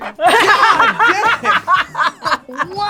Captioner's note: laughs